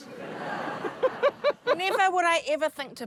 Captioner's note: laughter